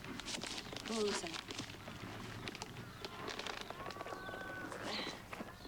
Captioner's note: Jessie speaking faintly